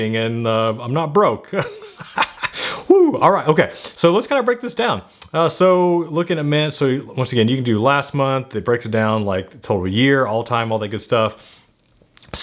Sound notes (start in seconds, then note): 1.5 chuckles